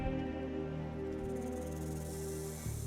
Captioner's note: none